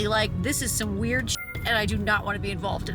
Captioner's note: sparkles chime